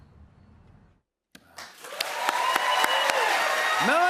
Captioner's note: cheers and applause